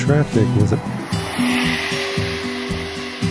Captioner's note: woosh